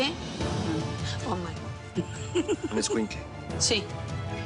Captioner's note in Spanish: Risas